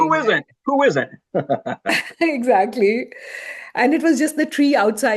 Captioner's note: chuckles